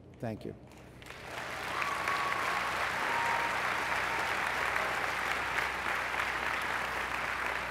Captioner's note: applause